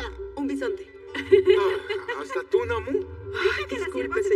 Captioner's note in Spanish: Ríe